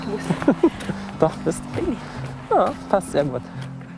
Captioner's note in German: Lachend